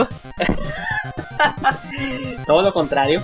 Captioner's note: chuckles